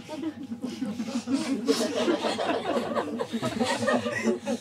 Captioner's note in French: rires